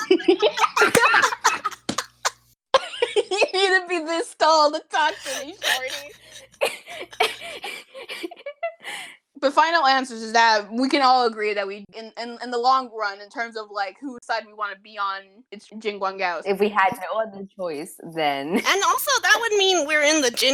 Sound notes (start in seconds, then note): 0.0 laughter; 5.1 stuttered laughter